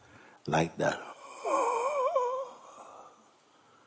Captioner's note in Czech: zvuk zívání